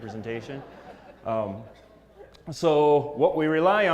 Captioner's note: laugh